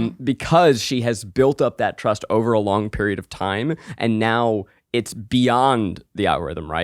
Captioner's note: none